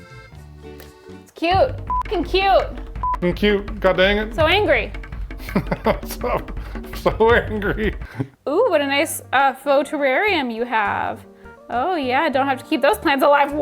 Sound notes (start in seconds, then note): 5.4 laughs